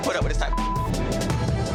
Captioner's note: beep